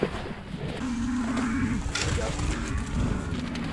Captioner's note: cows grunting